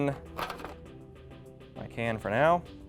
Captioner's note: pan rattling